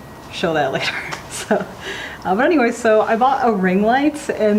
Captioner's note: laughing